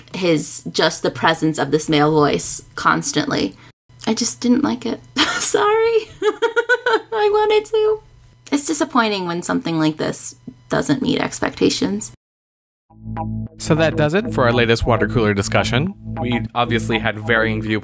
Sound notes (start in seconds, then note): 6.0 laughs